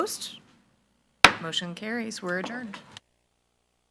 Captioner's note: gavel thuds